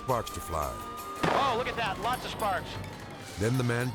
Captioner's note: tire blows